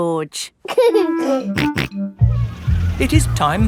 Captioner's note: giggling and snorting